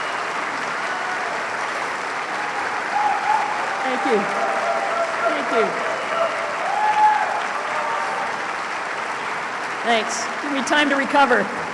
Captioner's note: applause